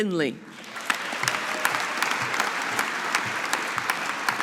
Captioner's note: audience applauding